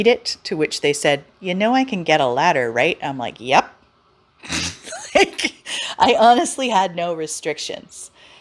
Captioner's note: laughs